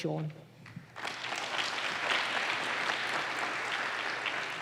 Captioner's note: applause